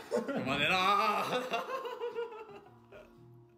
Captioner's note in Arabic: يضحك